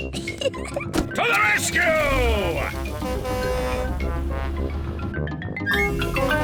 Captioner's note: horn blares; horn blares